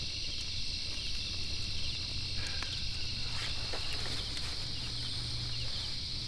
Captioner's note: crickets chirping